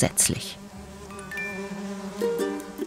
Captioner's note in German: Insektensummen